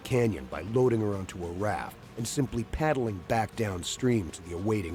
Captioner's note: voiceover